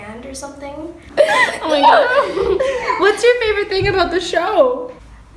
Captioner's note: laughs